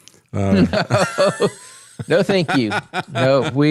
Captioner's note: both Laughing